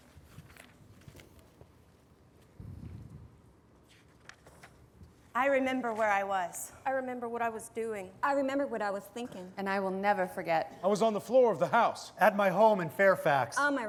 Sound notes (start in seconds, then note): none